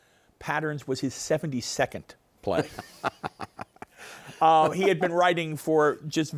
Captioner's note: laughing